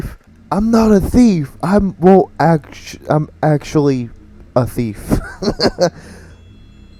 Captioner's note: laughing